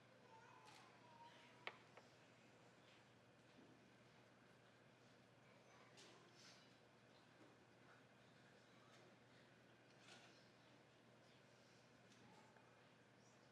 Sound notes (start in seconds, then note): none